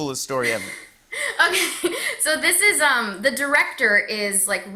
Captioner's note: chuckling